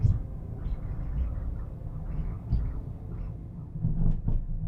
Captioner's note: static-y, echo-y drone sounds